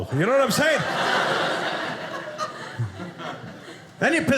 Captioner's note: audience laughing